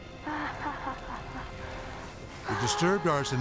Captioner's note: arsonist laughing